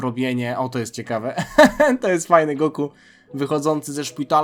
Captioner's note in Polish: śmiech